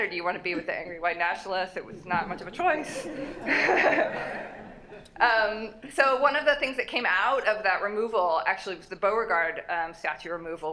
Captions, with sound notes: or do you want to be with the angry white nationalists? It was not much of a choice. [LAUGHTER] So one of the things that came out of that removal, actually, was the Beauregard Statue removal--